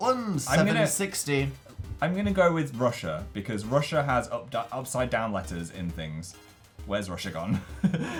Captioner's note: laughs